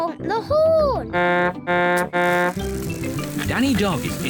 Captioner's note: honks horn